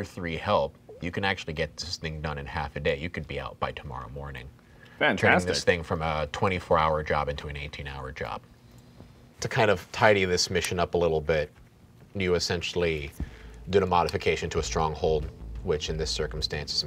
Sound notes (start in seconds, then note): none